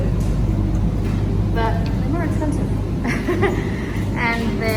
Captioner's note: chuckles